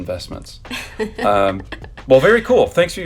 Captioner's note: chuckles